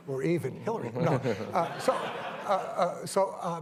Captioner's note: laughter